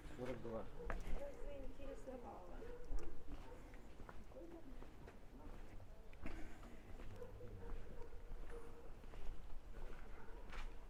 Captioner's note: speaking in foreign language